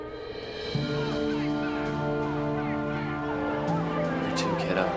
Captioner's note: crowd rioting